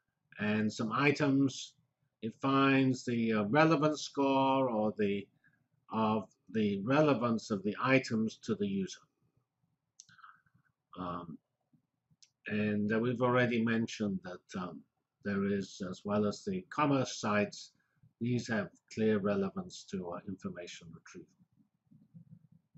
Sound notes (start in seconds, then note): 9.2 pause